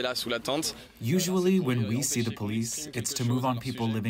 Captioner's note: through translator